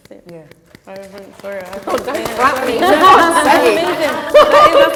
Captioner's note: applause